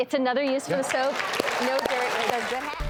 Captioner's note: audience applauding